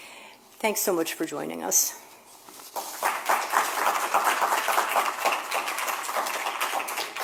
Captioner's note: applause